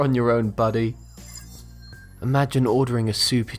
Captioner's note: futuristic ringing